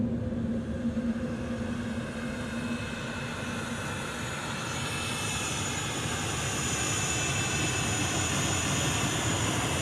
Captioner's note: airplane turbine